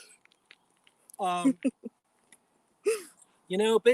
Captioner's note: laughs